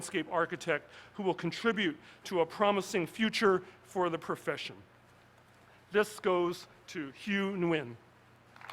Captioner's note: applause